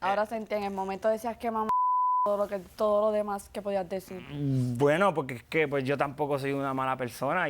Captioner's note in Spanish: Bip